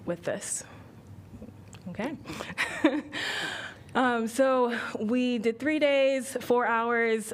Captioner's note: laughter